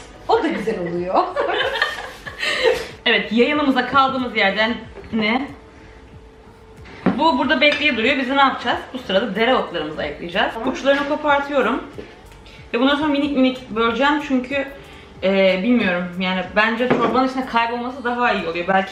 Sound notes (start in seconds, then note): 1.3 laughing